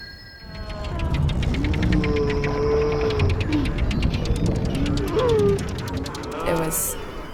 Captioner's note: cow sounds